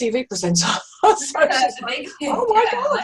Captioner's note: laughs